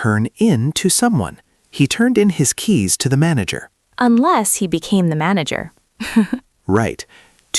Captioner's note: laughs